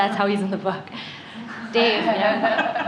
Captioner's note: laughter